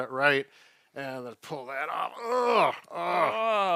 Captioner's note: grunts